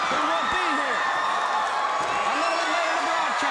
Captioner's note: crowd cheering